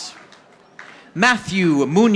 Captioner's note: audience applauding